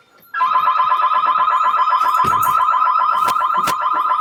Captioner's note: alarm blaring